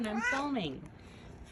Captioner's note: meows